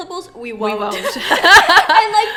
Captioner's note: laughs